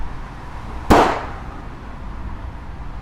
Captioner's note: gunshot